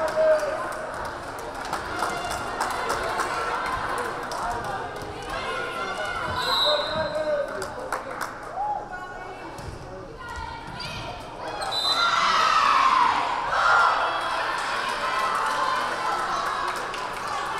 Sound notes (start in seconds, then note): 6.3 whistle blaring; 11.6 whistle blaring; 12.1 crowd cheering